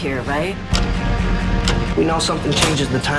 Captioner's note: clock ticking